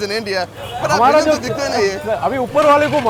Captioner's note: speaking in foreign language